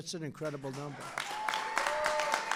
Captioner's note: applause